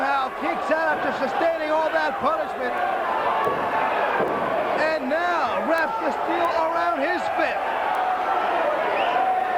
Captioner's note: crowd chatter